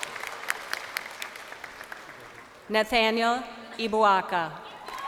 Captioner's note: crowd cheering